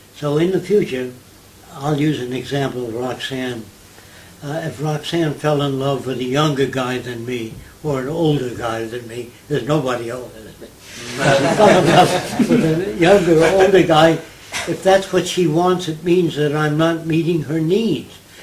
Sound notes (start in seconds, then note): 10.9 audience laughter